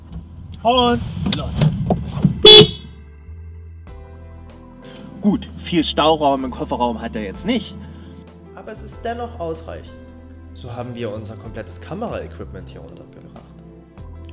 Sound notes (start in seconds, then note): 2.4 horn signal